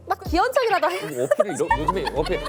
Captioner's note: laughs